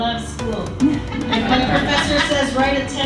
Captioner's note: audience laughing